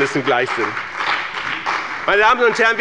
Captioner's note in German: Beifall bei dem BÜNDNIS 90/DIE GRÜNEN und der CDU